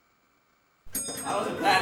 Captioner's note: bus dings